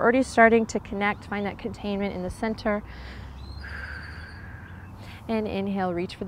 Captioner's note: takes deep breath